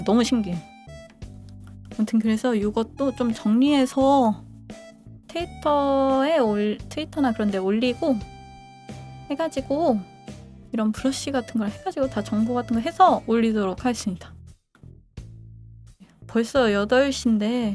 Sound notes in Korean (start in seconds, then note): none